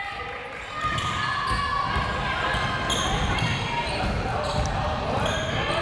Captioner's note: crowd members shouting